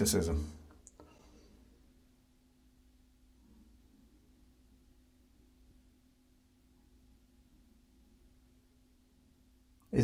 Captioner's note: silence